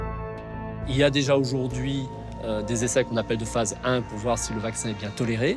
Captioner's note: speaks in foreign language